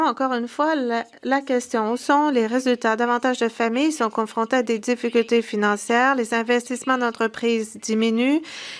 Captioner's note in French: voix de l'interprète